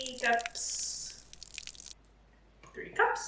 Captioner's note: liquid pouring sound effect